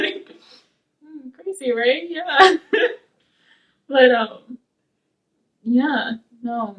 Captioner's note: laughing